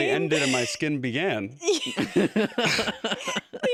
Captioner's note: laughter